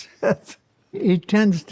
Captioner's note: laughs